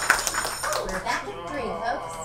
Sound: bell rings

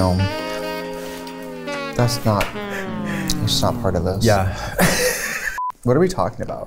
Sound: laughs

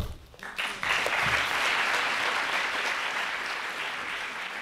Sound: applause

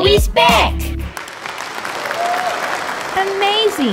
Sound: applause

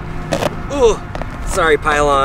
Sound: grunts

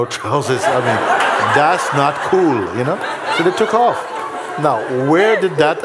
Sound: laughter

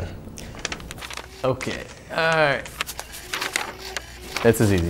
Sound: pages crinkling

